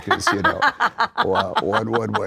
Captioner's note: laughter